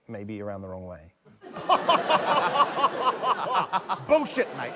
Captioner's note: laughs